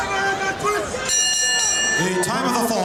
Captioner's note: bell ringing